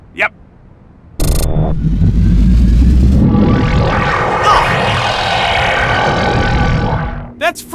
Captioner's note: door powering up